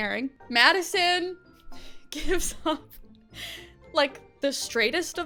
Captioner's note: chuckles